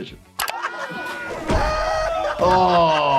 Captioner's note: Jackass crew laughing hysterically